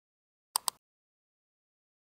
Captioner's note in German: Klicken